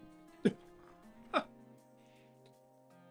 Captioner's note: laughs